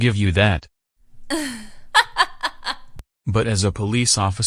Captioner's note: chuckling evilly